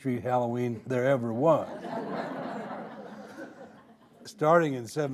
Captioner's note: audience laughing